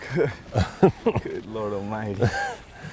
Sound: laughs

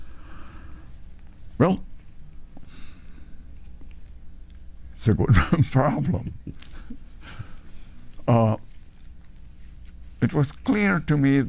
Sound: chuckles

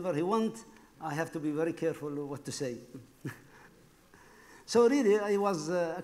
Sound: laughs

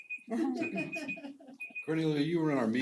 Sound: laugh

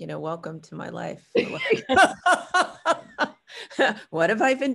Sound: laughing

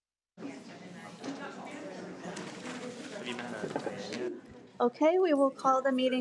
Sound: people chattering distantly

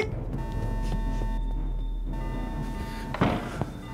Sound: alarm blares

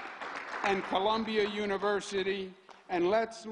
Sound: applause

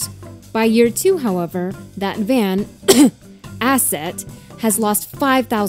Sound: cough

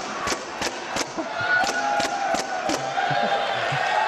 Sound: crowd cheers

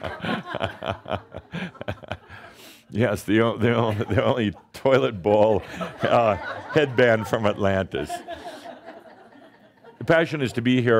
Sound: laughing; chuckling

